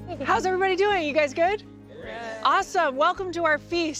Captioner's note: guests responding